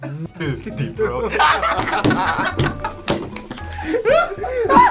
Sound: all laugh

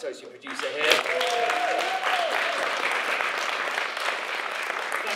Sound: audience applauds

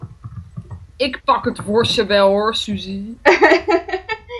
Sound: sassy

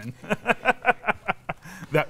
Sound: laughs

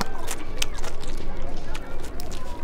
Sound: chews offensively

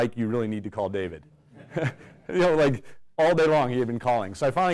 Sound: laugh

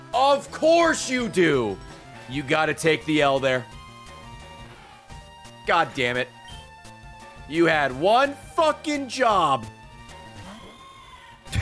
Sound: laughs

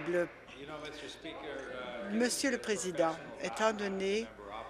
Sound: applause

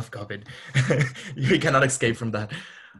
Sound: laughs

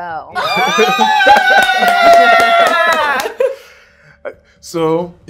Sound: cheering

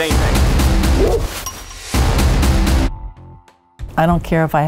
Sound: dog barks

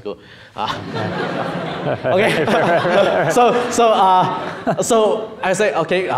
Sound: audience laughing

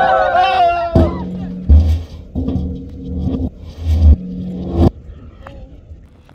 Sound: cheering; drum falls

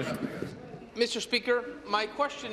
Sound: applause

